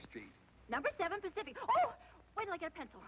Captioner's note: breathlessly